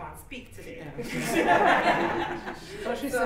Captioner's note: laughter